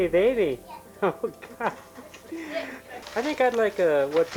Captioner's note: laughing